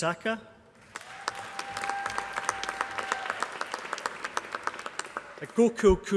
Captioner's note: applause